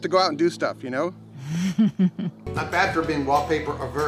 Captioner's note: woman laughing